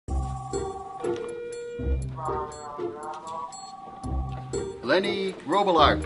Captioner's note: whimsical string music; phone ringing